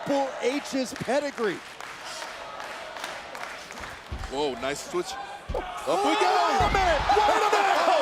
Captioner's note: applause